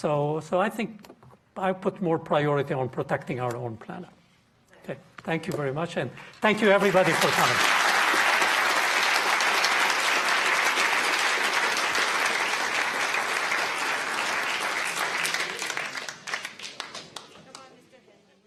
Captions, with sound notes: So I think I put more priority on protecting our own planet. Okay, thank you very much, and thank you everybody for coming. (audience applauding)